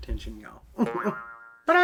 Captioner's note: chuckles